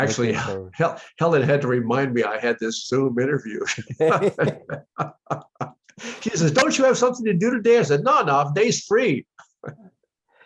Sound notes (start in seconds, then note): 3.7 laughter